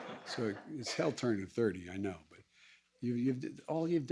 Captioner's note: laughter